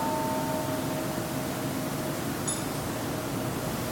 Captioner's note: Kansho ringing